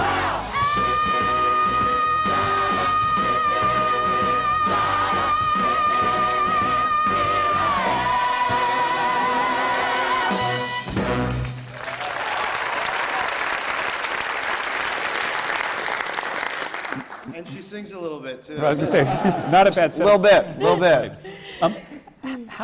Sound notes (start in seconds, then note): 15.5 applause; 18.7 laughter